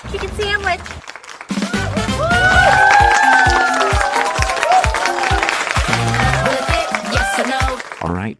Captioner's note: cheering; applause